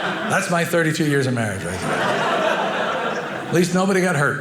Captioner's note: audience laughing